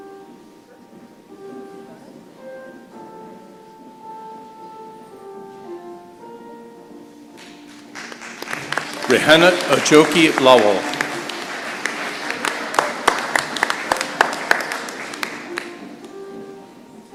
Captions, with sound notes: Rihanot Ajoke Lawal. [applause]